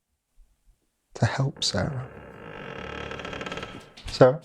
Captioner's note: door creaking